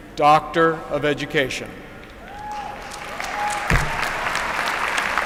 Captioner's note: applause